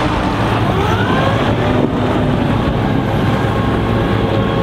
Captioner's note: tow truck whirring